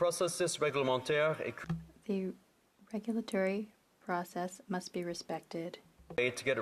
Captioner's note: speaking French